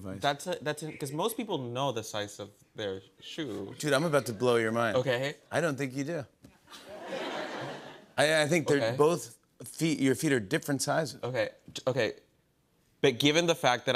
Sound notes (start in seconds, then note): 6.7 laughter